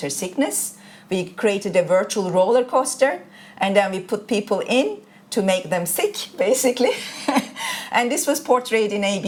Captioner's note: chuckles